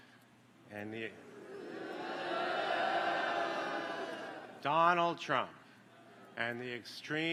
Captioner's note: applause